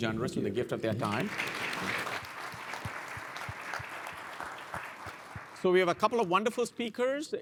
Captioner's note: applause